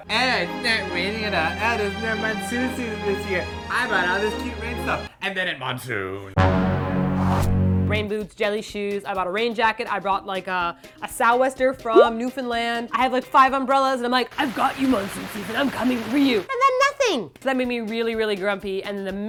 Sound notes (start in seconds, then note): 6.4 dramatic sound effect